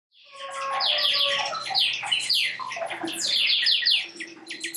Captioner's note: synthesized animal noises